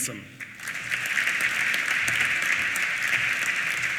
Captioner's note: applause